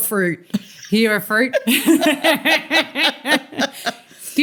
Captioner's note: laughter